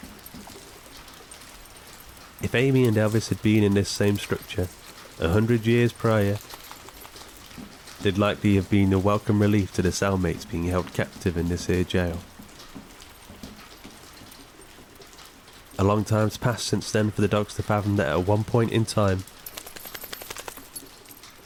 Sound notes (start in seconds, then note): 0.3 footfalls padding; 0.3 water loudly trickling; 6.6 rapid flapping; 19.3 dog tags jingling; 19.3 rapid flapping